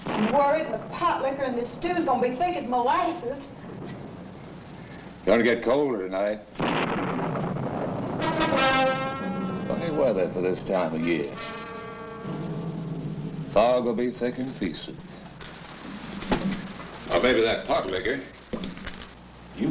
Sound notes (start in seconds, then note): 6.6 thunder rumbling; 7.9 ominous music